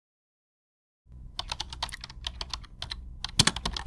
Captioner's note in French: Bruit de clavier